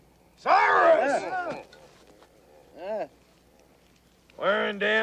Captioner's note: Cyrus and Lassiter shriek